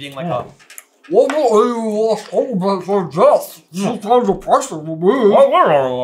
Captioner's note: passable impression of talking with full mouth